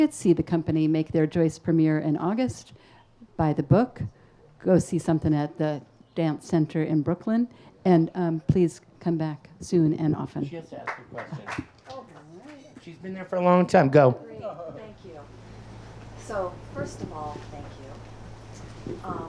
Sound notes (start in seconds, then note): 10.8 audience applauds